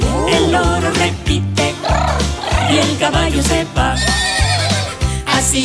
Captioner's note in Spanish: Relincho